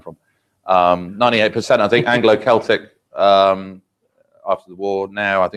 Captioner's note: laugh